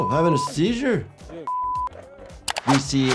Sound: digital beeps

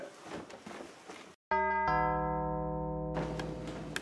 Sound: door bell

